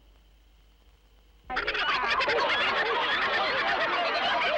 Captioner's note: laughter